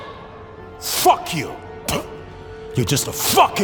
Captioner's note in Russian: плюёт